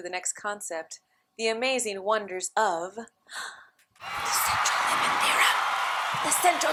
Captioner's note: applause